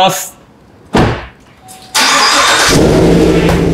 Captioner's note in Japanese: 車のエンジン音